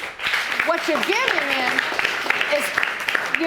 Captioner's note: audience applauding